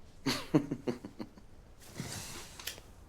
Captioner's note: laughing